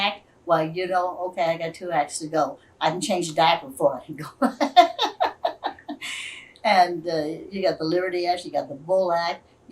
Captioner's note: laughs